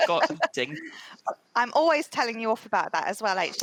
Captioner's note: laughs